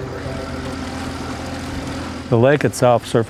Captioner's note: water splashes; engine hums